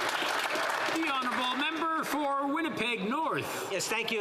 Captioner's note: some Applause